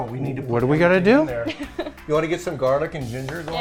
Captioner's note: laughs